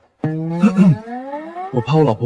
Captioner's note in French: Tousse